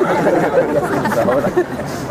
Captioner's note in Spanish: Risas